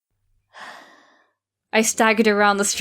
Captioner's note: sigh